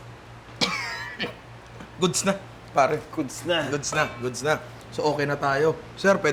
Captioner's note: coughs